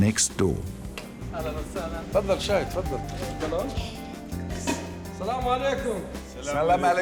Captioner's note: speaks arabic